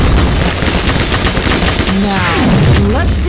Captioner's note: rapid fire; bullets hitting rock